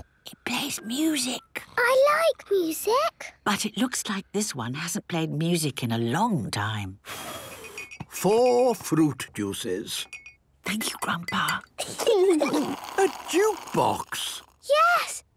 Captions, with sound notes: It plays music. - I like music! - But it looks like this one hasn't played music in a long time... (blows) - Four fruit juices. - (Granny whispering) Thank you, Grandpa! - (children giggling) - A jukebox!? - Yes...